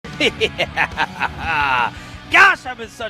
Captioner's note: laughs